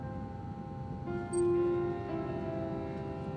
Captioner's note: screen beeps on